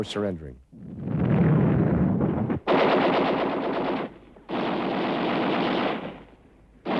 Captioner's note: explosions; gunfire